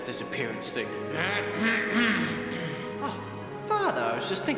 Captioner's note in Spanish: se aclara la garganta